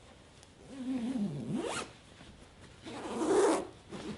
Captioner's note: zipper zips